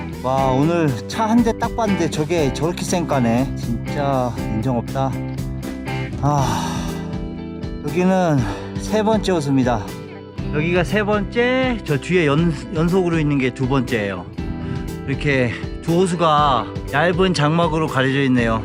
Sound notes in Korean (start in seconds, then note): 6.1 아쉬움이 가득한 한숨